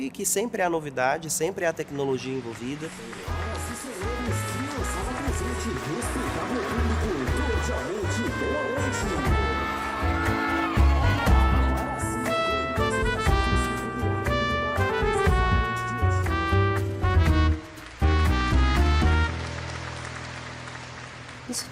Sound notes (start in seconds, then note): 3.4 funny instrumental music; 17.7 audience applause